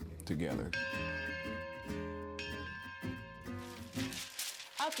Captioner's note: church bell rings; paper shreds